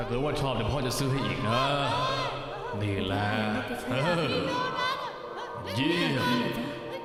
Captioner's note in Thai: เสียงพ่อของเอ็มเมดพูดคุย